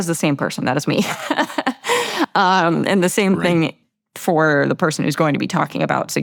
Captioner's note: laughs